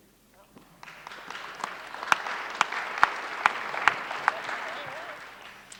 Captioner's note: applause